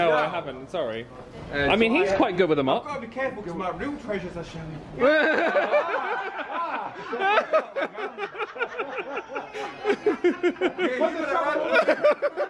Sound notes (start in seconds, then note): 5.3 laughs; 6.8 audience laughs